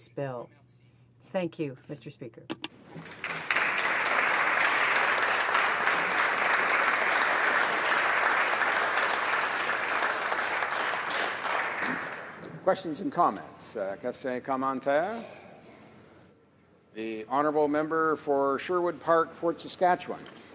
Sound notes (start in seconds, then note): 7.2 some applause